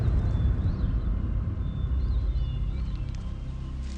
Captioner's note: birds chirping